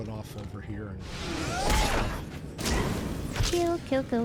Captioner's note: gun firing